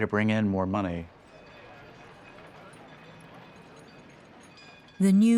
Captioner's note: trolley clanging, people chattering